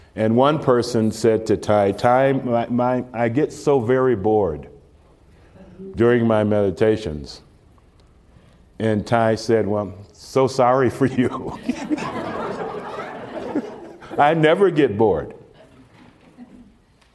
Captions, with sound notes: and one person said to Thầy: "Thầy, my— my— I get so very bored during my meditations." And Thầy said, well, "so sorry for you." (Laughs) (Laughter) "I never get bored"